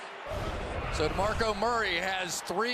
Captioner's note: swoosh